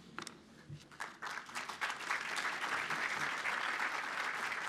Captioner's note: applause